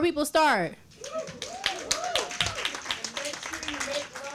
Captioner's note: applause